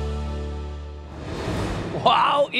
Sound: graphics whooshing

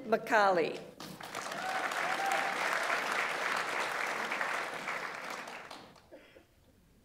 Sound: audience applauds; audience member cheers

